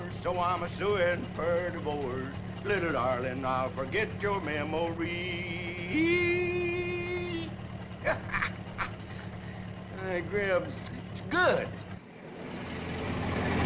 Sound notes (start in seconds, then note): 8.0 Harris chuckles softly